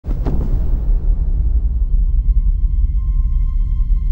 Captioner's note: thunder rumbles; dramatic music